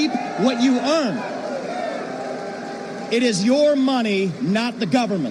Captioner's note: cheers